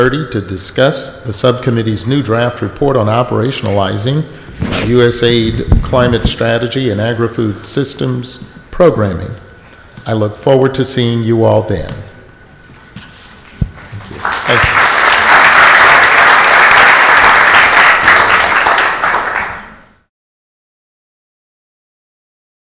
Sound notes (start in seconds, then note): 13.8 audience applauds